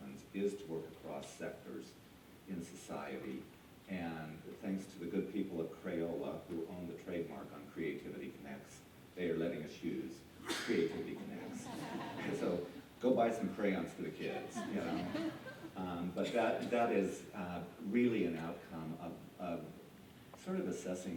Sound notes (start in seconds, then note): 14.2 laughter